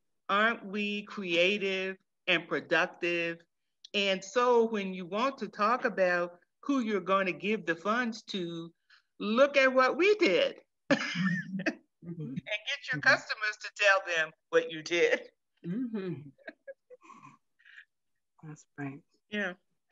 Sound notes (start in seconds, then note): 11.6 laughs